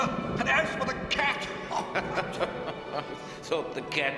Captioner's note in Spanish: Jasper se ríe